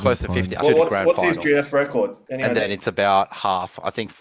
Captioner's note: laughs